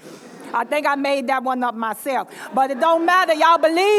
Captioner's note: laughter; laughter